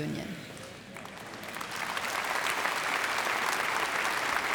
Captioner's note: applause